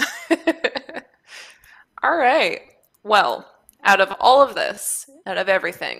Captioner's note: laughs